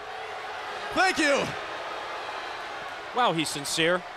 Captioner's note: crowd cheering